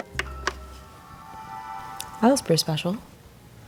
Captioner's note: Xbox loading